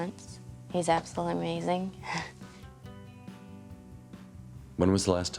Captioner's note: chuckles